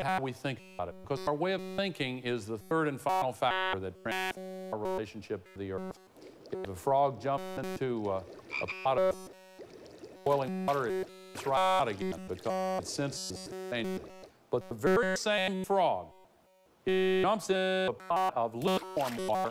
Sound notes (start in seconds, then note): 5.5 croaking